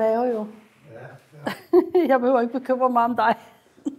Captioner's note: laughter